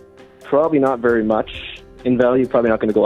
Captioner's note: man voice on a call